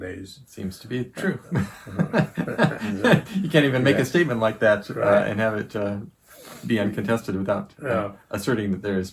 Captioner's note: laughing